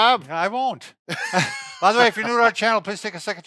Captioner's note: laughs